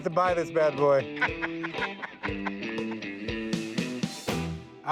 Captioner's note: laughing